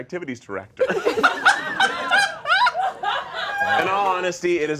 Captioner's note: all laughing